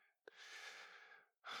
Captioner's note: sigh